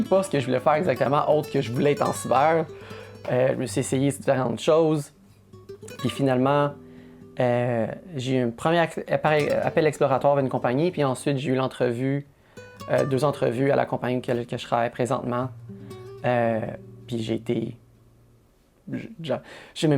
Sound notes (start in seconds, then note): none